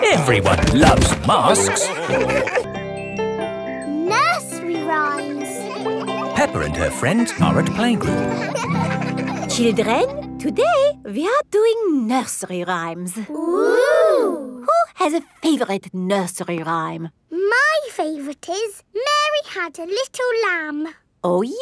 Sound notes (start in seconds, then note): 8.4 children laughing